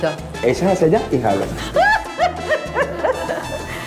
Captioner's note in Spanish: laugh